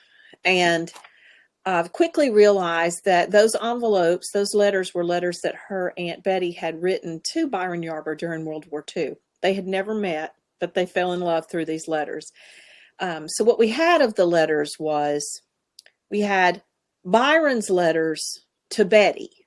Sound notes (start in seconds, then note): none